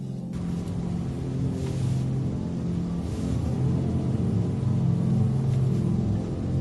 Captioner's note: car slowing down